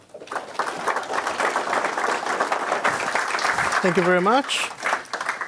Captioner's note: audience applauding